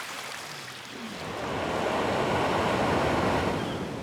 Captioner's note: surf sounds and seagulls